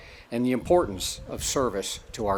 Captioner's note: none